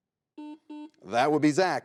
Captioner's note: buzzer beeps